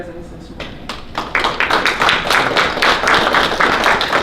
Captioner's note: applause